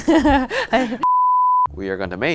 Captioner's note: screen beeps